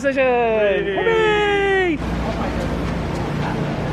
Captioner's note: all cheering